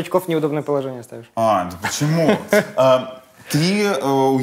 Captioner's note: laughs